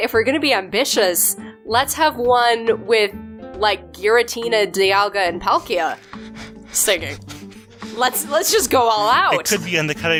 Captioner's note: laughs